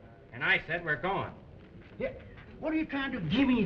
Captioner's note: slurring